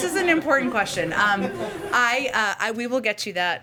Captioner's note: laughter